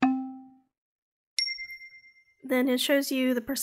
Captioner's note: dinging